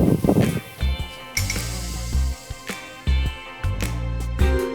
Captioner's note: only the sound of breathing in the waiting room